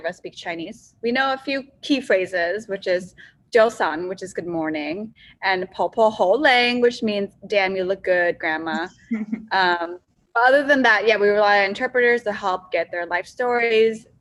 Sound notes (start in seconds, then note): 9.0 laughs